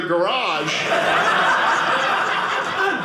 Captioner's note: audience laughing